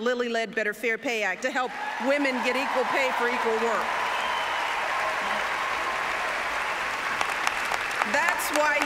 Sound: applause

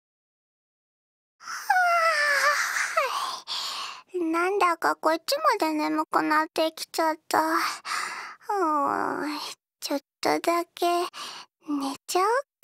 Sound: yawn

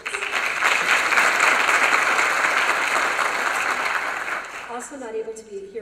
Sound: applause

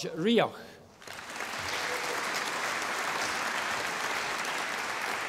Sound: audience applauding

